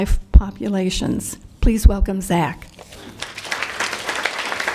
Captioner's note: applause